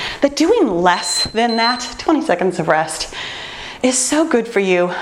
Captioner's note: time beeping